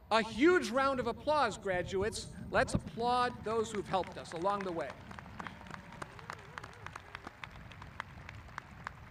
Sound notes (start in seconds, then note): 5.4 applauding